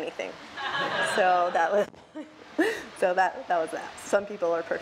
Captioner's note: laughs